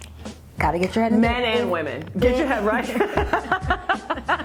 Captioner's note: laughs